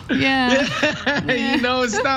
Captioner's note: laugh